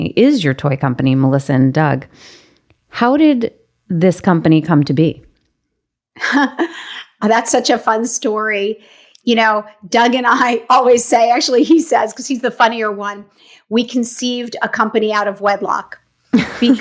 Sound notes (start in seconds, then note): 6.2 laughs